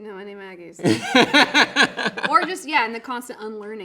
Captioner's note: laughing